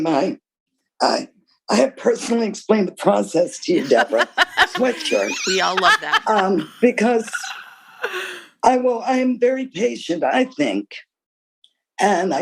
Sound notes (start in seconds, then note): 3.8 laughter